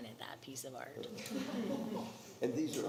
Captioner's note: attendees laughing